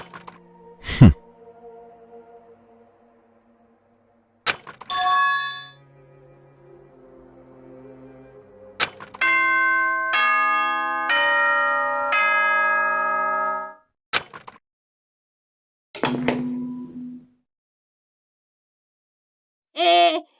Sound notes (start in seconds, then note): 9.2 ding, dong....ding, dong